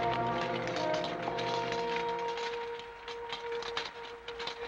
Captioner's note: sabers rattling